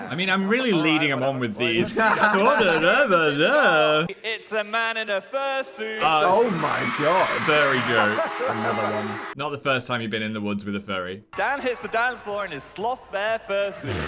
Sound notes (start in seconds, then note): 1.8 laughing; 13.8 both chuckling